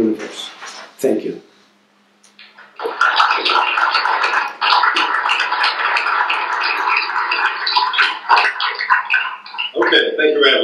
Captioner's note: applause